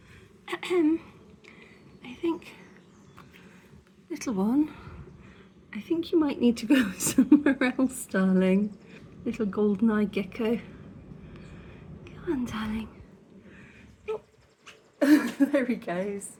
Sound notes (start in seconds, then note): 0.5 clears throat; 15.0 laughing